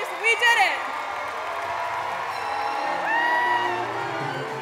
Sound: applause; applause and music

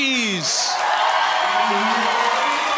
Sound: applause

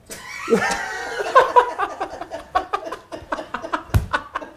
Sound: both laugh

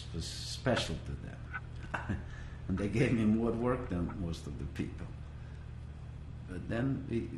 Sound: laughs

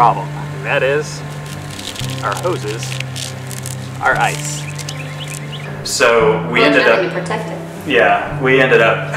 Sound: ice crunching sounds

